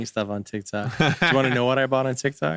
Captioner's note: laughing